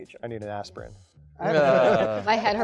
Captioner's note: panelists laughing